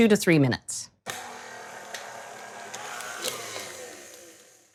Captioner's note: quiet whirring